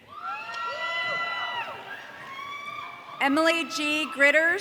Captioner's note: audience cheering